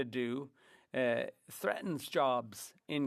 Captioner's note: speaking French